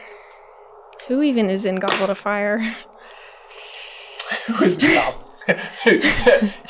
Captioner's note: laughs